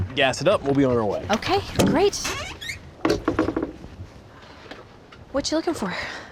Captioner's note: creaking sound